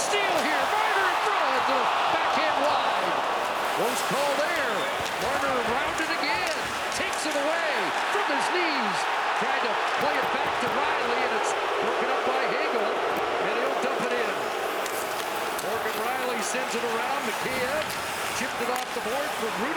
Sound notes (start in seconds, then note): 6.0 crowd noise; 18.0 booing